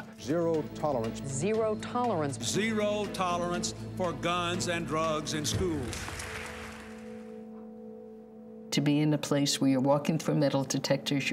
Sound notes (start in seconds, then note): 5.4 attendees applauding